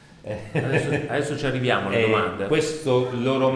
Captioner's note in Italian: risata